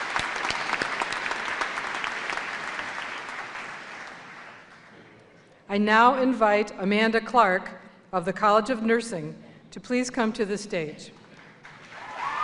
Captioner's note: applause